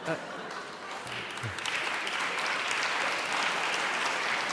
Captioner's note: applauding